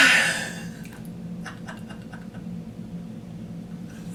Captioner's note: sighs, then laughs